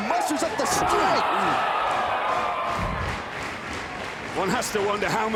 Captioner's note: crowd cheering and clapping